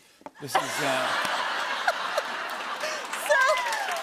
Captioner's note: laughter